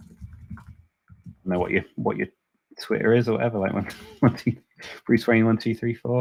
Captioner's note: chuckles